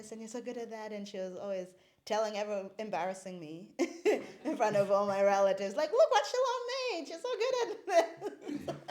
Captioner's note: laughs